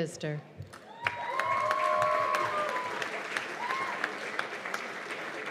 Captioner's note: cheers and applause